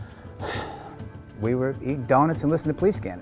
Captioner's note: sighing